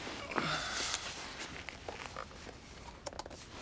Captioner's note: Drew sighs